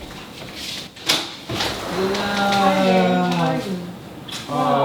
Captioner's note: rain pours